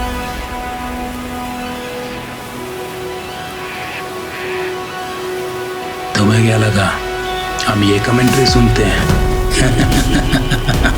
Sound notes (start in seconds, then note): 8.9 laughs